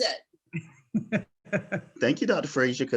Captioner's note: laughing